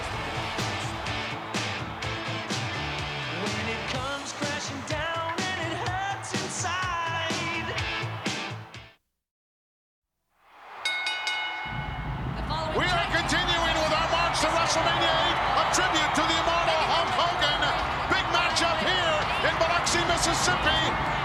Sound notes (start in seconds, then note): 0.7 upbeat rock music; 10.8 bell ringing